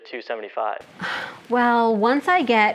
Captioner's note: sighs